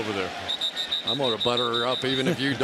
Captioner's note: whistling